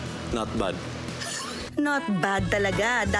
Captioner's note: snickers